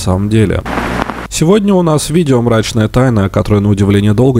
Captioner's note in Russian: помеха